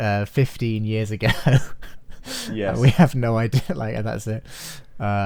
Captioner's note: laughs